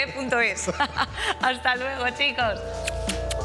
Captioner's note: laughs